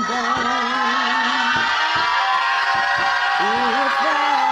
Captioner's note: group yelling in unison